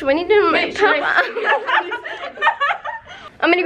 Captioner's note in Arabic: يضحك